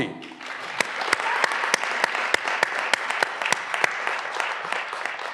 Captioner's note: graduands cheering and applauding